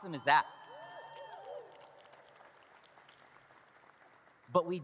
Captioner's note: audience cheers and claps